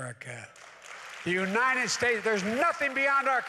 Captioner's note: applause